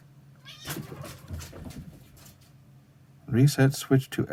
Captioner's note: startled cat noises